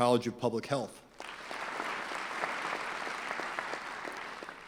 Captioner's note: clapping